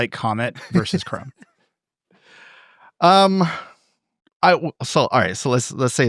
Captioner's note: laughing